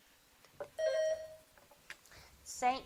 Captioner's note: bell dings